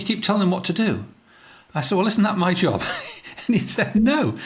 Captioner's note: laughs